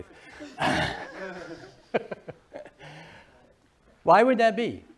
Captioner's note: laughing